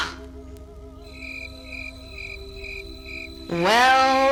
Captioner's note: crickets chirping